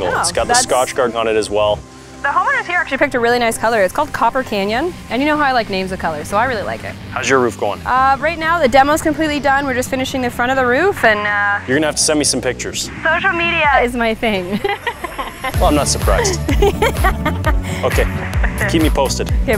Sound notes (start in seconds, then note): 14.3 laughing; 16.3 laughing hysterically